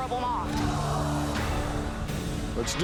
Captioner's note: audience gasps